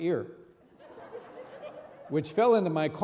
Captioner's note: audience laughing